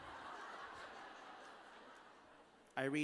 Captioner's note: laughter